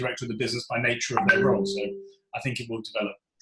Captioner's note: computer alert pings